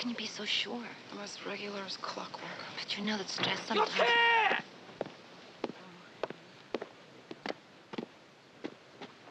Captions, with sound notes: - How can you be so sure? - I'm as regular as clockwork. - But you know that stress sometimes-- (shouting in Japanese)